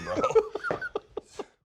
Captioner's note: laughs